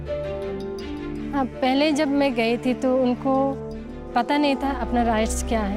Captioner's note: speaking in foreign language